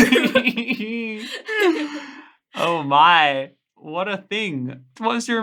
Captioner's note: laughing